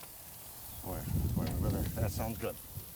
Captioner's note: wind blowing